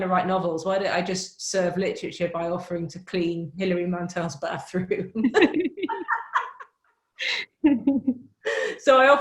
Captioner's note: laughs